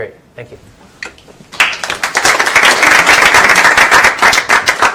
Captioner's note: applause